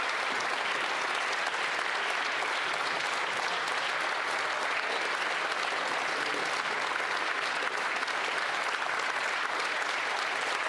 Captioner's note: applause